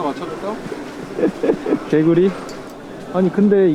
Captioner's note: laughs